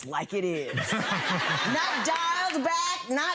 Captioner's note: audience laughs